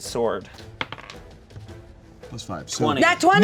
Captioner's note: dice rolling